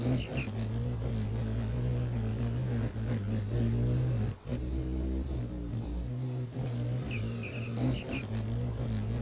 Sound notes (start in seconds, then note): 0.0 bird's wing flapping; 0.0 birds chirping; 1.3 buzzing